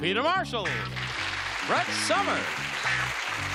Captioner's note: applause